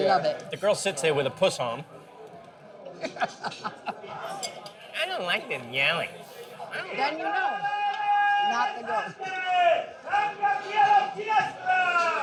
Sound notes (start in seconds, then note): 2.9 chuckling; 4.7 in whiny voice; 9.3 shouting in Italian